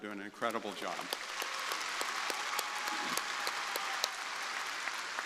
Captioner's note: crowd applauding